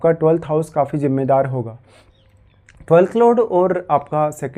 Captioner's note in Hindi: नाक से की जाने वाली आवाज़